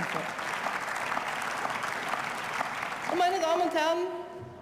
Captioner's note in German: Beifall